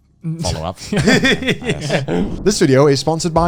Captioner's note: laughs